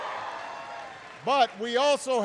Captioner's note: applause